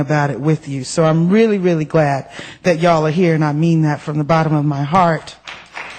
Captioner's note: applause